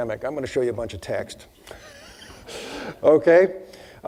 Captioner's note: laughing